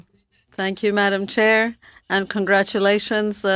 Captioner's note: speaking French